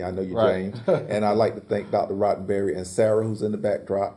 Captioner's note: laugh